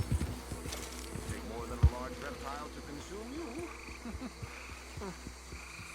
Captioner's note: laughs